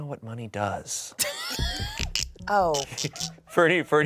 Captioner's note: everyone laughs